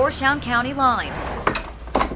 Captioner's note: appliance whooshing; appliance shuffling